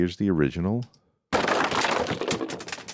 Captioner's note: crashing